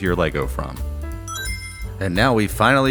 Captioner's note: Sonic Ring Chime